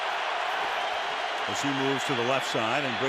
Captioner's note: cheering